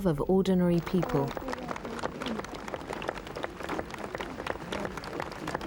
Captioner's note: crowd applauding